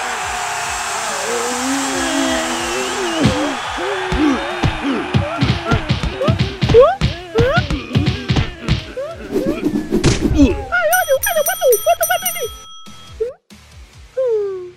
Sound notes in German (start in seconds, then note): 0.0 crowd jubelnd; 10.4 Grunzen; 10.8 Glockenschlags